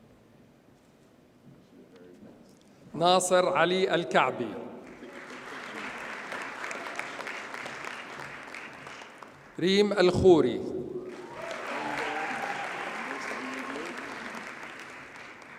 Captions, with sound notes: Nasser Ali Al-Kaabi. (audience applauds) Reem Al-Khori. (audience cheers and applauds)